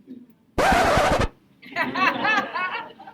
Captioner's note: record scratching; audience laughing